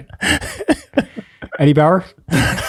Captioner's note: Father PT laughs